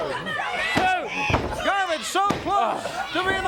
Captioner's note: crowd chatter